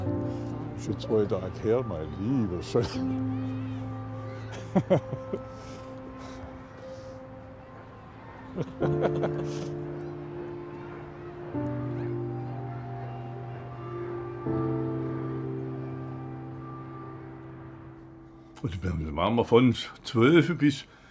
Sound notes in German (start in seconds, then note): 4.5 lacht; 8.4 Beide lachen